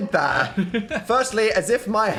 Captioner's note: laughs